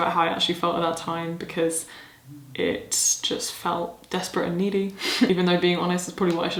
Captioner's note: chuckles